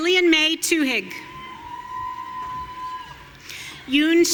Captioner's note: audience cheering